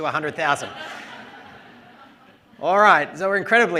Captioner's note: laughter